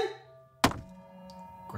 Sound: thud

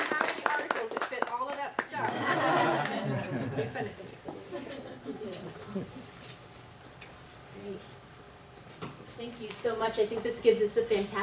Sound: clapping; laughter

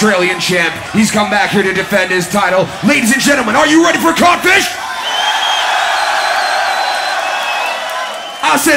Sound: crowd Cheers

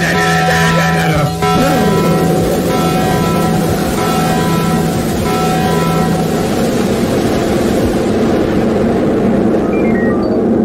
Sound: literal explosion

